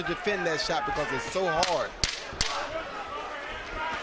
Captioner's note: loud tapping